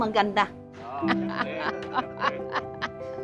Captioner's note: laughs